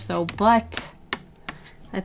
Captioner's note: tap tap-tap